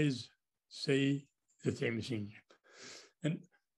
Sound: french words

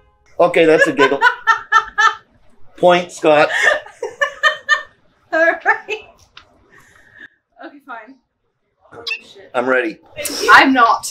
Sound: laughing

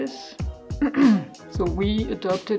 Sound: ahem!

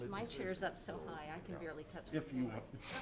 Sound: faintly speaking

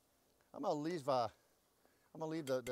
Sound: stuttering

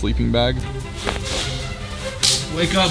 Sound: slap

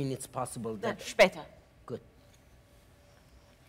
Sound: professor speaks Russian

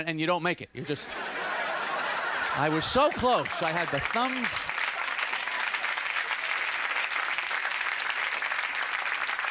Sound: audience Laughter and applause

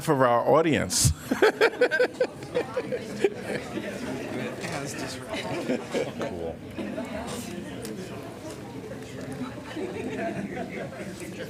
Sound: laughter

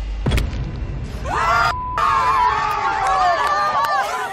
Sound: shouting

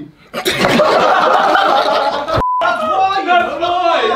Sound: everyone laughing

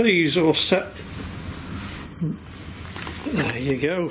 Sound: beeping

